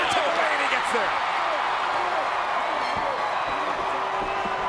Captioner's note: crowd cheers